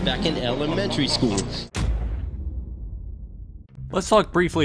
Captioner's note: thud sound effect